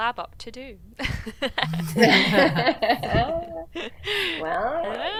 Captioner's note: doctors laughing